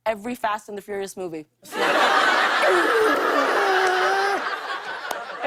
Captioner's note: laughter